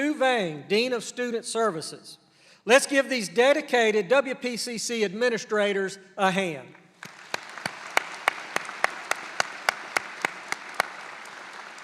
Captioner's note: applause